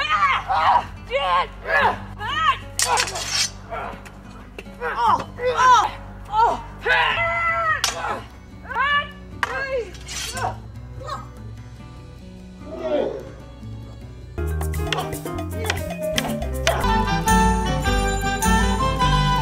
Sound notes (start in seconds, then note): 0.2 yells & weapon clashing; 6.3 yells & weapons clashing; 14.3 brooms colliding; 14.3 lighthearted music; 16.7 celebratory music